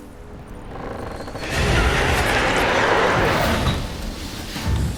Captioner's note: ghastly shriek